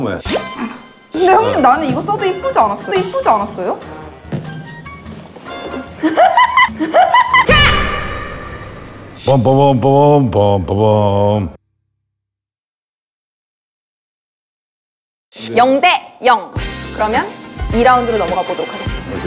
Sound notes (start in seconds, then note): 5.7 laughing; 7.4 she's laughing at herself